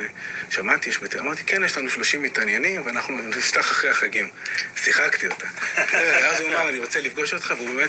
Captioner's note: laughing